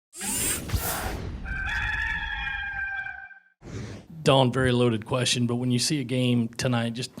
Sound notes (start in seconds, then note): 0.2 mechanical whirring; 1.4 rooster crowing